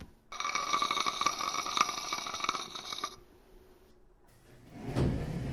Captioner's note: dishes screeching